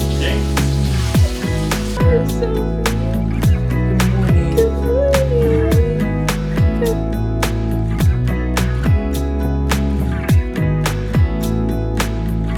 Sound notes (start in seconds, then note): 0.1 gentle music; 2.0 couple murmuring; 7.0 gentle music